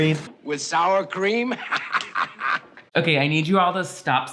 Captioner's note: laughs